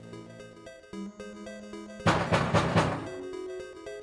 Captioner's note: door knocking